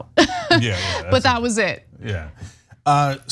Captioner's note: laugh